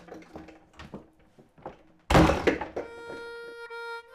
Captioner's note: slams door